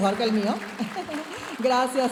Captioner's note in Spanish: risita